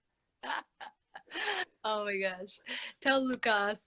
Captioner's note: laughing